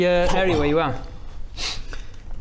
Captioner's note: sniff